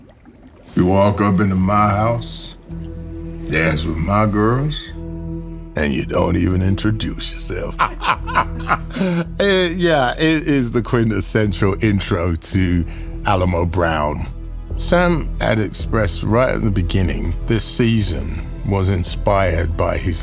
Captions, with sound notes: You walk up into my house, dance with my girls, and you don't even introduce yourself. (LAUGHING) Uh, yeah, it is the quintessential intro to Alamo Brown. Sam had expressed right at the beginning this season was inspired by his love